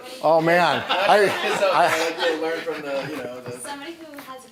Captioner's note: laughing